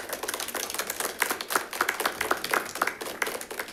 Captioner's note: all clapping